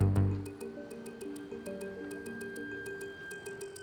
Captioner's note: siren blaring